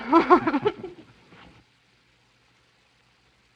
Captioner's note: laughs